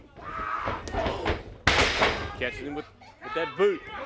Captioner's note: crowd chatter